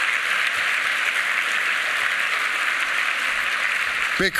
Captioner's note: applause